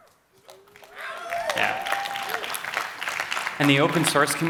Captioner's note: cheering